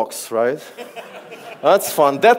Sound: audience laughs

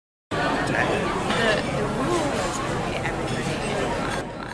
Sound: noisy crowd talking

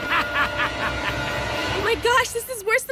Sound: laughs

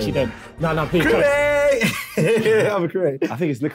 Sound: laughing

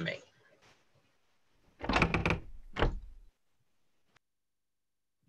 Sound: cabin door creeks

